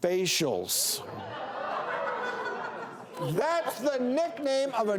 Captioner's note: audience laughs